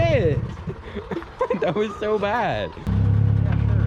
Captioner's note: laughing